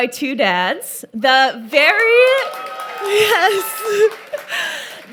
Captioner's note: audience cheers